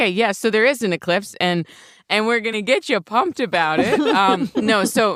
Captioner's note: laughs